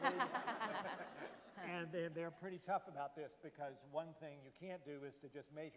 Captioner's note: laughter